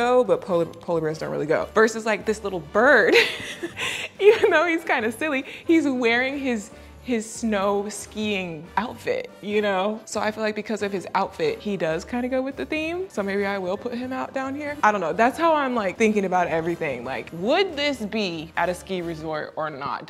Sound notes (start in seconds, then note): 3.2 laughing